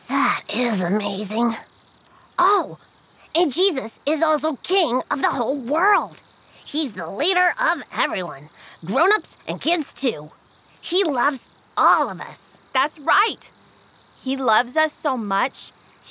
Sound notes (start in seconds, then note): none